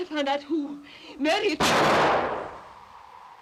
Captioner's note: gunshot